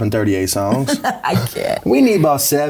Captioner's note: laughs